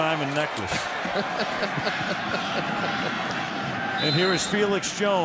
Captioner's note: laughs